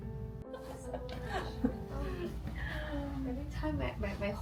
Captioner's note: laughing